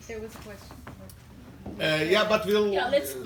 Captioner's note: mumbles